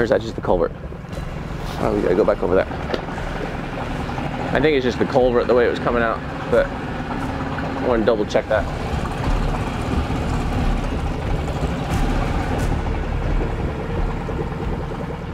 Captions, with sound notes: Or is that just the culvert? Oh, we gotta go back over there. I think it's just a culvert, the way it was coming out. But I wanna double check that. (dramatic music) (boat spluttering)